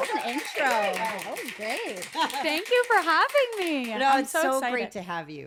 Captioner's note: applause